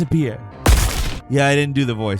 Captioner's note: gunshot booming